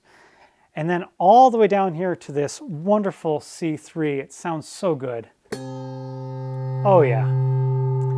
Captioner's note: bell rings